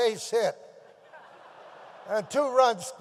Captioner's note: audience laughs